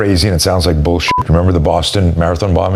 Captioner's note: beep